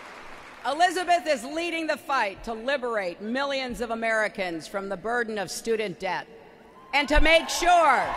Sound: applause

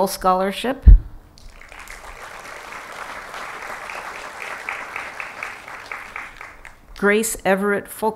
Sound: applause

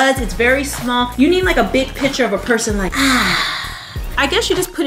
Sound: sighs

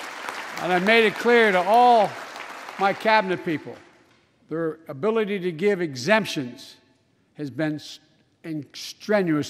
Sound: applause

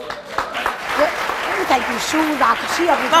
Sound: audience applauding

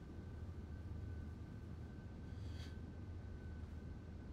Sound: none

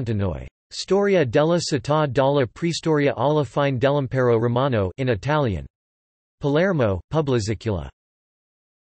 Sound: in Italian

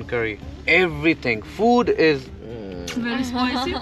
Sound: muah

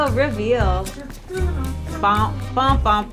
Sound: humming

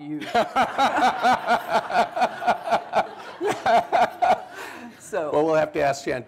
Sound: laughter

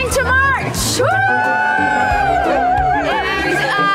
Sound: protesters cheering loudly

